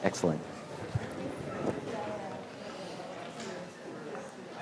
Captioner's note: class chattering